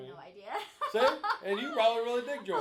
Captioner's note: laughing